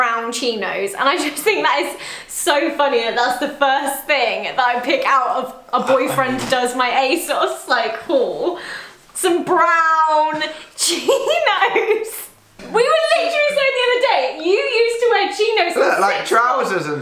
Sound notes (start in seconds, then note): 11.4 laughs